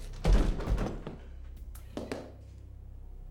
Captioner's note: thud